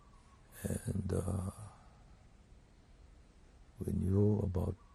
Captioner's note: pauses for 3 seconds